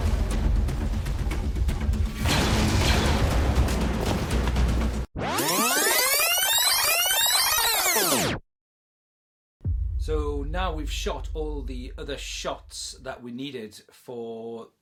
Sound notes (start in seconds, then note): 0.0 intense music; 2.1 shooting; 4.0 intense music continues; 5.3 playback sound